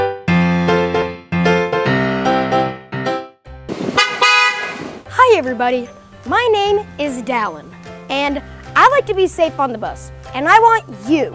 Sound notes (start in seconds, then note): 3.7 horn honks